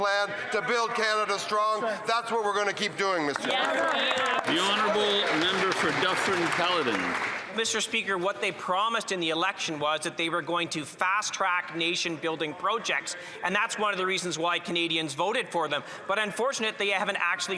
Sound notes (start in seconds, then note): 7.8 some Applause